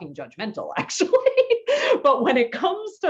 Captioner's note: laughs